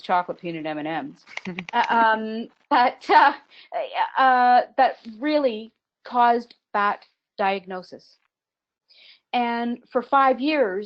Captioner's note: laughs